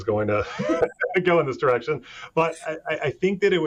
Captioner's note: chuckling